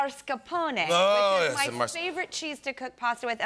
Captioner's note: Italian accent; normal voice